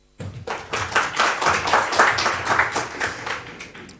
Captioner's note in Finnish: Aplodeja